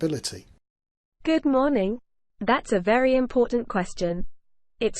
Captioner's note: copilot's female voice